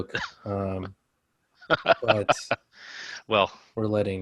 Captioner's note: laughing